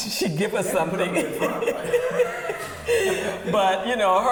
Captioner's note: laughing